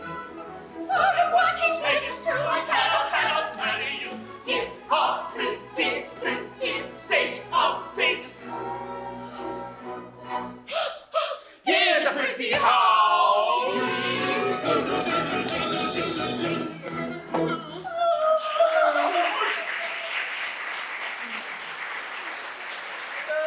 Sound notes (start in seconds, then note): 10.7 breathing heavily; 18.5 applause